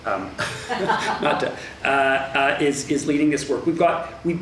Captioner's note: woman offscreen laughs